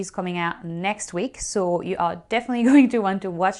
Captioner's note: chuckles